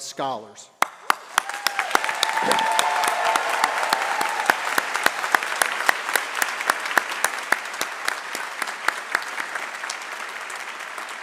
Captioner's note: applause